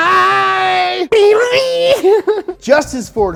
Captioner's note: giggles